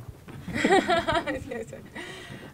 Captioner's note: laughing